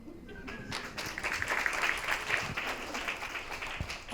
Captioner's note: audience applauds